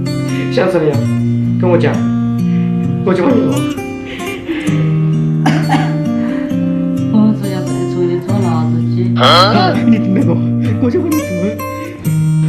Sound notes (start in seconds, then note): 5.3 coughing